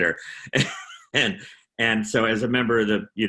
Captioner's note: chuckling; laughing